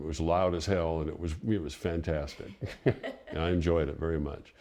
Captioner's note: chuckles